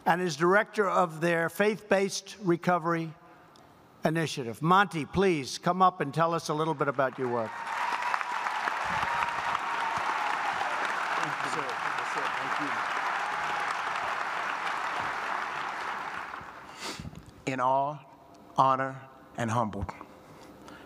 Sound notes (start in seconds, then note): 9.0 applause